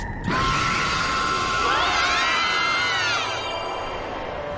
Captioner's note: all screaming